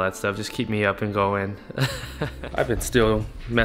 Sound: laughs

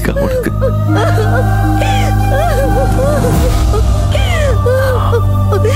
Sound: weeping

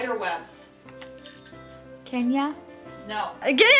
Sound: bell tinkling

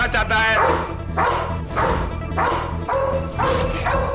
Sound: dog barks

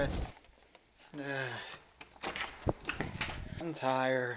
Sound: yawns

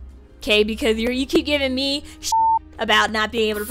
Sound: beep

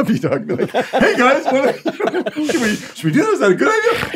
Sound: laughs

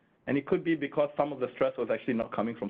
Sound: none

